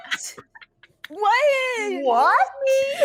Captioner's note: people giggling